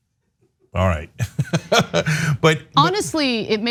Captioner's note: laugh